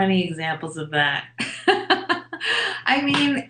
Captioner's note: laughs